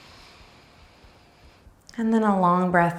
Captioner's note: breathing deeply